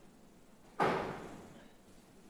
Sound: door slams

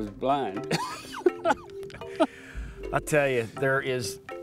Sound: both laughing

